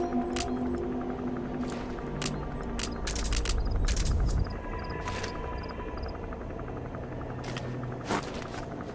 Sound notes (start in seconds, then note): 2.0 devices clicking; 3.9 tense music